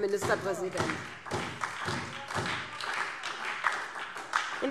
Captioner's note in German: Beifall SPD